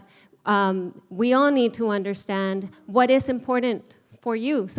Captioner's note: none